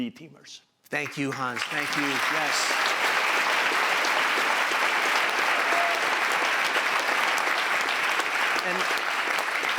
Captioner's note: applause